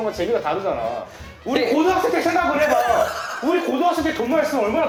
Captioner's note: chokes up